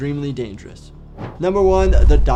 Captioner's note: transition whooshes